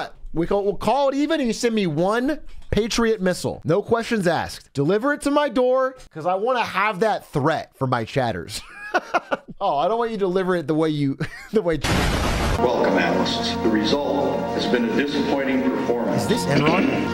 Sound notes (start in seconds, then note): 8.6 laughs; 11.2 nervous laugh